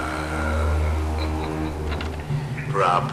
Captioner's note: evil-sounding chuckles